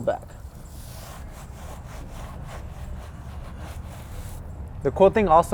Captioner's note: brushing sound